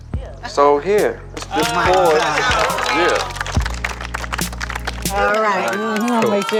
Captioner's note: crowd clapping